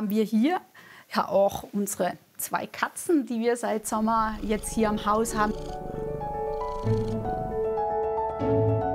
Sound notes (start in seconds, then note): 5.8 loud purring; 7.4 idyllic music